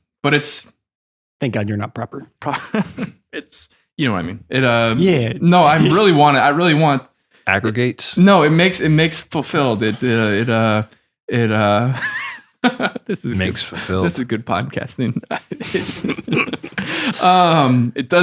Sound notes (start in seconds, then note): 12.6 laughs; 16.7 all laughing